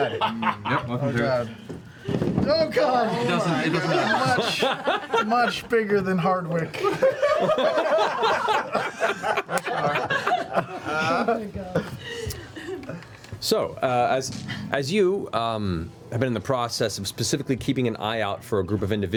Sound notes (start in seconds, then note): 6.7 laughter